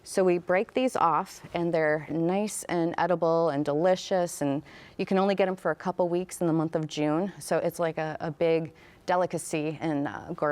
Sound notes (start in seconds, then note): none